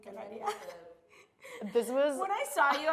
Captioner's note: laughing